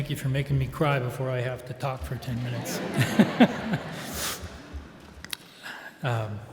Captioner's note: all laugh